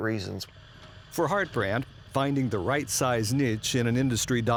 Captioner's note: voiceover